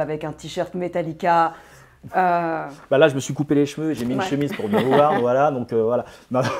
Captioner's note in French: Rire